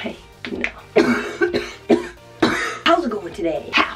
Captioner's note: coughing